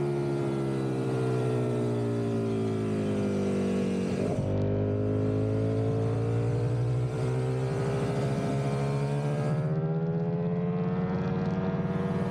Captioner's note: engine roaring